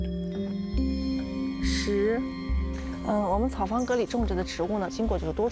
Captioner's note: speaking chinese